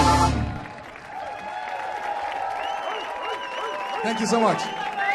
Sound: audience applauding

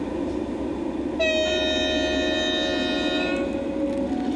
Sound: horn blows

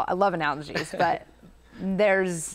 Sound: chuckles

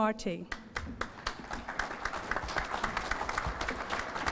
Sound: applause

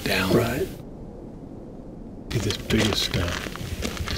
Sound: none

